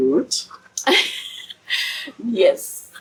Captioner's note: laughs